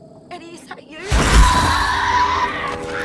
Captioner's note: Eddy shrieking; Alice screaming